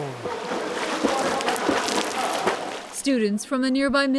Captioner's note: people chattering